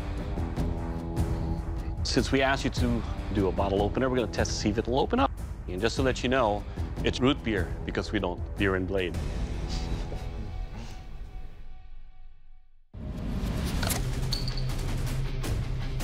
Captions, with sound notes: Since we asked you to do a bottle opener, we're gonna test if it'll open. Just to let you know, it's root beer, because we don't beer and blade. [chuckling] [dramatic music playing]